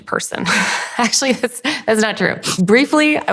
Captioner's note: laughs